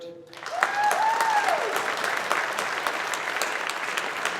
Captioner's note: audience applauding